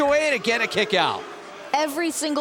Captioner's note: crowd cheering